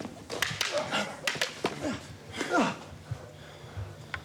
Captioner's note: grunts